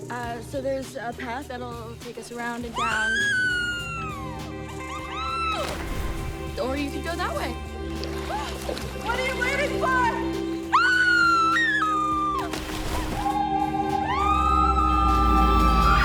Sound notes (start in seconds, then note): 2.7 screams; 4.8 splashes; 10.7 screams; 12.6 splashes; 13.8 yells